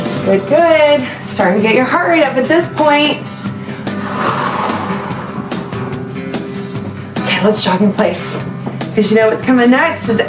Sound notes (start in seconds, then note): 3.7 exhales